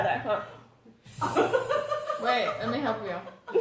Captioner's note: laughs